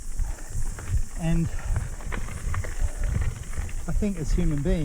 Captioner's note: breathing deeply